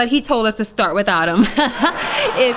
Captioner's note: laughs nervously